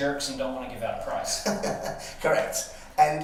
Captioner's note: laughing